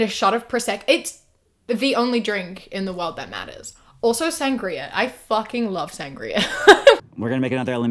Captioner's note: laughs